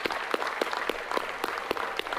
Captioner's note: applause